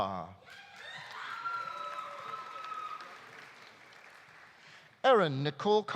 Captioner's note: audience cheering; audience applauding